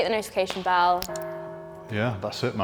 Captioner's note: bell ringing